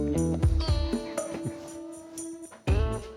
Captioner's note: laughs